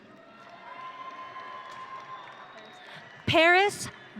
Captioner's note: audience cheering